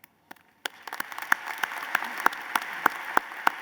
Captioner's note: applause